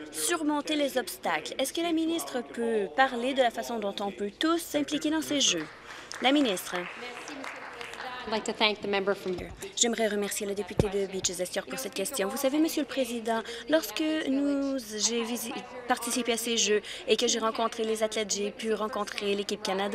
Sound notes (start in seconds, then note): 10.8 speaking in French